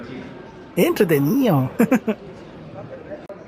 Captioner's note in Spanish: risas